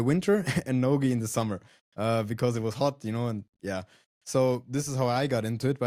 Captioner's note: laughs